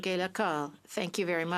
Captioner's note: speaking French